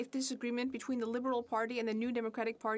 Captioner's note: speaking french